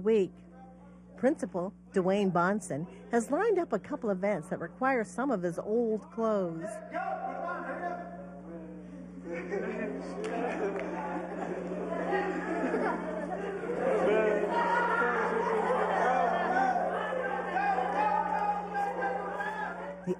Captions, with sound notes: WEEK. PRINCIPAL DWAYNE BONSON HAS LINED UP A COUPLE OF EVENTS THAT REQUIRE SOME OF HIS OLD CLOTHES. >> GO! PUT THEM ON! HURRY UP! [LAUGHTER] >> GO, GO, GO!